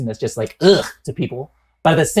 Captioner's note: grunts